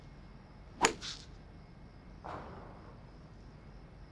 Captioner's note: club striking